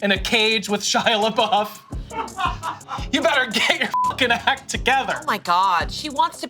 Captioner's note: beep